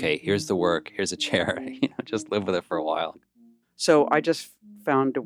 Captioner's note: laughs